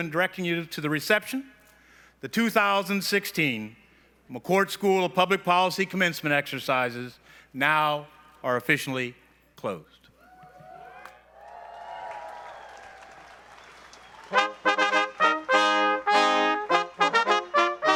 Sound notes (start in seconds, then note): 10.2 cheering; 14.3 stately music